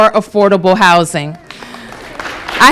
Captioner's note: applause